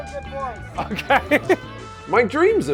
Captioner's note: laughing